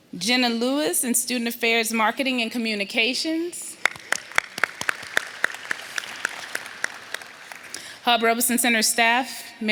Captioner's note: applause